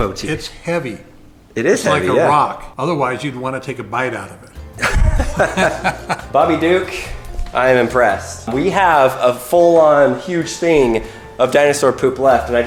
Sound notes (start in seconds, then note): 4.7 laughs